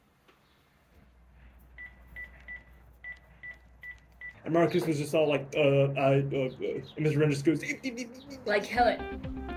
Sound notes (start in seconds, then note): 3.0 phone buttons beeping